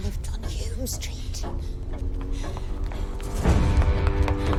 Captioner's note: ticking continues